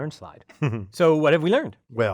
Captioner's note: laugh